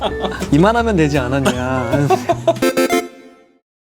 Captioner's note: laughs